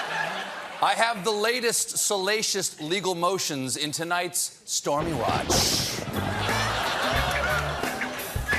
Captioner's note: laughter